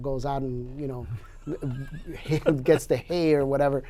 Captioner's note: laughing